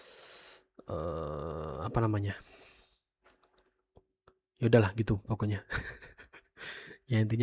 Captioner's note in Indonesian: tertawa